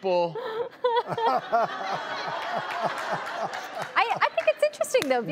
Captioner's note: audience laughs